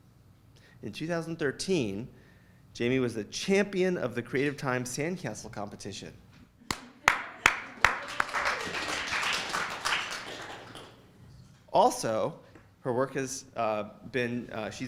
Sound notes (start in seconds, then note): 6.7 applauds